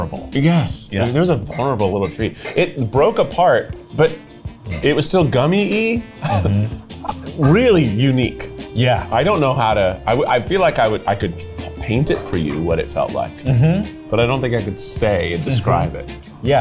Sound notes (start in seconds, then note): 6.1 laughs